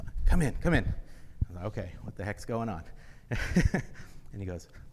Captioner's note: laughs